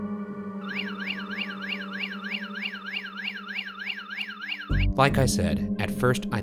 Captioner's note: motion detector beeping